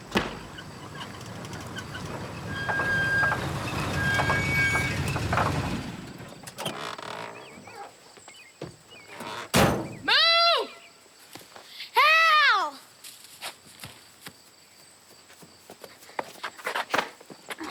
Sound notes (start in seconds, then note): 0.0 truck backfires; 2.6 brakes squealing